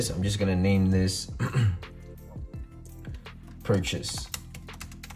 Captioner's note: clears throat